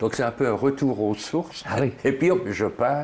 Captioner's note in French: rire